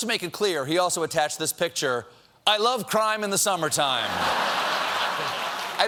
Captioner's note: laughter